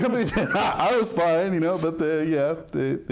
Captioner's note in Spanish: hombres riendo